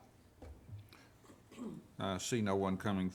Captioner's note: clearing throat